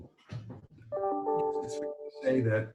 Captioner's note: computer pings